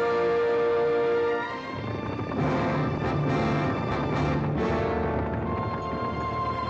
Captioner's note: triumphant music; hooves pounding